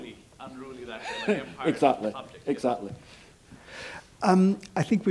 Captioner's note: laugh